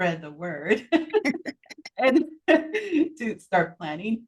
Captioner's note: chuckling